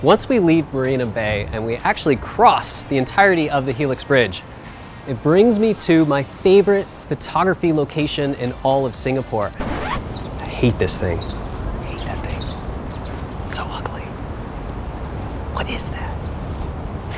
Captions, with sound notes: Once we leave Marina Bay, and we actually cross the entirety of the helix bridge, It brings me to my favorite photography location in all of Singapore. (record scratch) I hate this thing, hate that thing. It's so ugly, what is that.